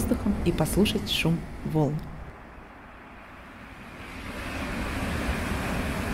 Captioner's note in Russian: шум прибоя